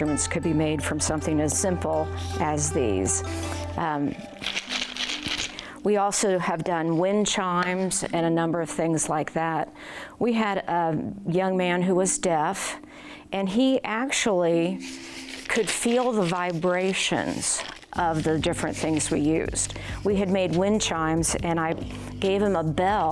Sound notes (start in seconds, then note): 4.1 seeds rattle